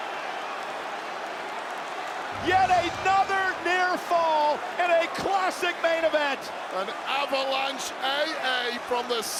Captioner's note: cheering and applause